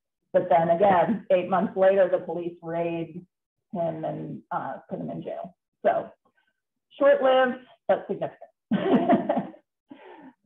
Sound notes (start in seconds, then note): 8.8 chuckling